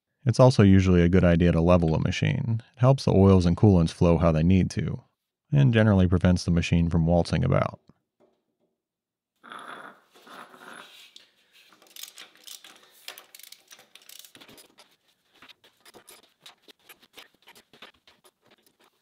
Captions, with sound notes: It is also usually a good idea to level a machine. It helps the oils and coolants flow how they need to and generally prevents the machine from waltzing about. (wrench ratcheting)